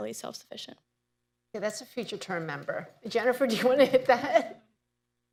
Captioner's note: laughs